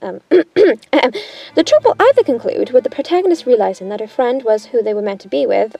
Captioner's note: awkwardly coughs